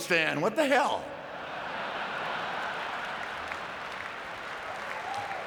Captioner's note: audience laughing